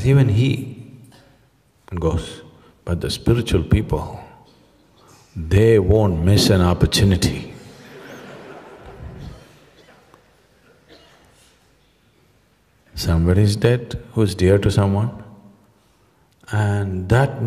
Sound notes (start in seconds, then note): 7.6 laughter; 11.4 笑聲